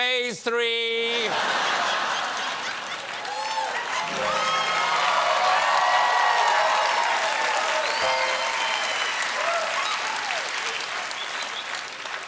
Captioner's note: cheers and applause